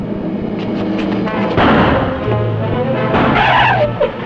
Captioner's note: gunshots